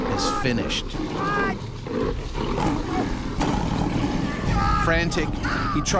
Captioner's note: growling and screaming